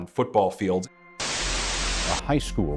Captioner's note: tv Static